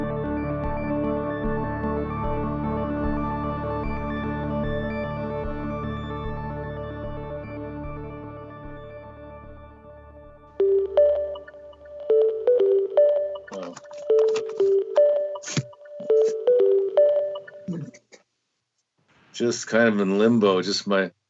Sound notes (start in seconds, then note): 10.6 program chiming